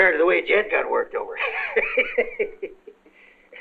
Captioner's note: laughs